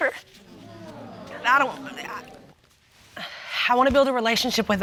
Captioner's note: stammers